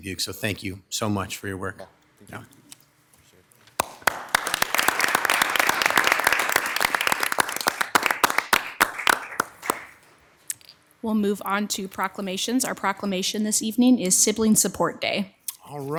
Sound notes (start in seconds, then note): 3.7 everyone applauds